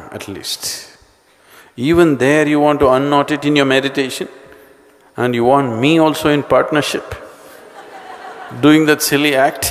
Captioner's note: laughter; 笑聲